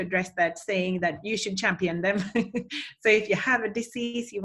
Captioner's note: chuckles